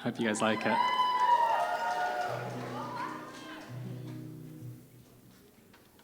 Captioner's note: cheering